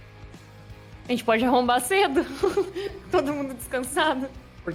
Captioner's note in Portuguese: risada